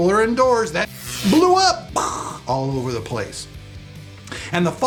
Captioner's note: static